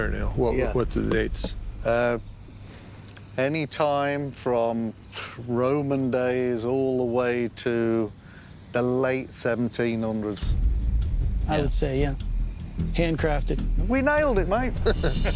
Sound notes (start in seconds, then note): 4.9 exhales; 14.8 laughter